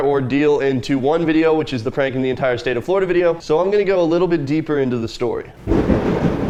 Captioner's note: very loud thunder